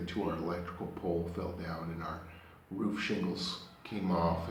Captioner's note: none